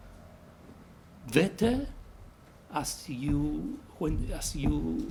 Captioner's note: mumbles